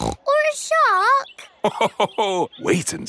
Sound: snorts; laughs

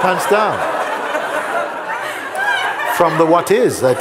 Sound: laughter

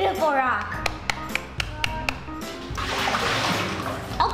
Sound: clapping

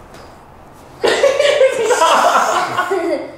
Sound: laughing

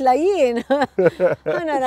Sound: laughing

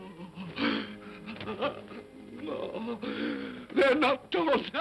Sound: Scrooge whimpers

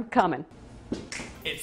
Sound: le snap

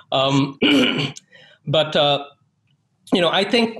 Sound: clears throat

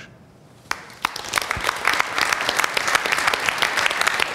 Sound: applause

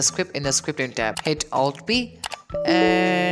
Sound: click sound

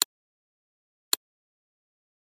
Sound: click!

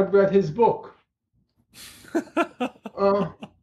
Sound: laughter

